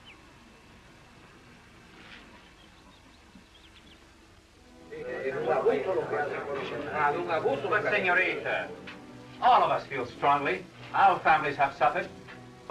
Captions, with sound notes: [SPANISH CONVERSATION] But Señorita, all of us feel strongly. Our families have suffered.